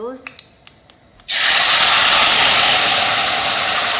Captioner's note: pan sizzling